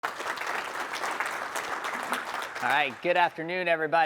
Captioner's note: audience clapping